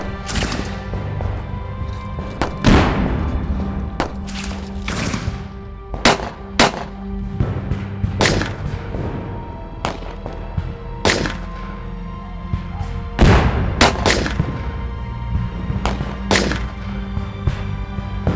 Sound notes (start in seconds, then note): 2.2 tense music continues; 5.8 gunshot cracking continues